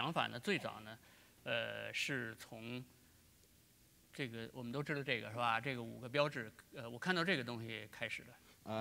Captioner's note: speaking in Chinese